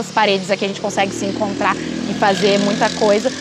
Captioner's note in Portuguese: veículos aceleram ao fundo